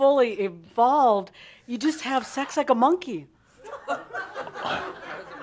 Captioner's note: some giggles